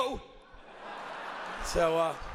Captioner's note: audience laughs